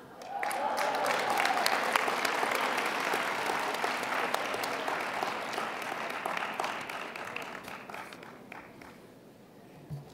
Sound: applause

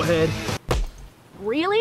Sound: smack

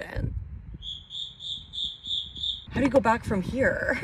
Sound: crickets chirping

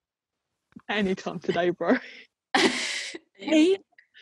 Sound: laughs

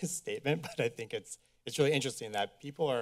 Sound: chuckles

